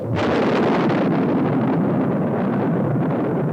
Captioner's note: thunder rumbles